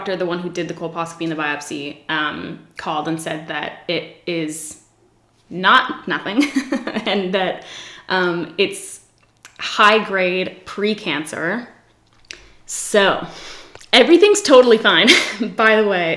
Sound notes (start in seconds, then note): 6.0 laughs